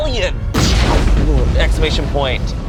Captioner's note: explosion booms